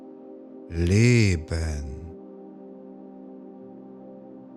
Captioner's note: german